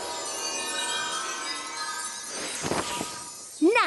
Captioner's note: tinkling